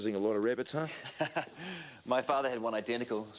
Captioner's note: Graham chuckles